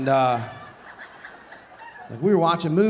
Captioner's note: audience laughing